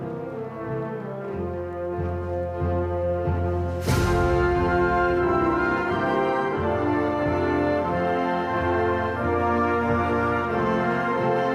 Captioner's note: audience chatter